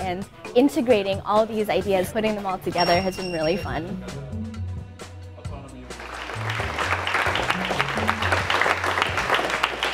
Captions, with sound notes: and integrating all of these ideas, putting them all together has been really fun. [APPLAUSE]